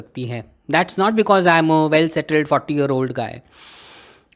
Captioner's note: takes deep breath